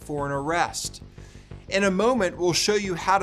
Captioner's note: graphics swishing; soft electronic music